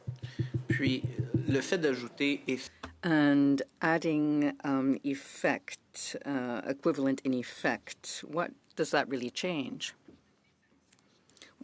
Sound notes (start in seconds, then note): 7.0 speaking French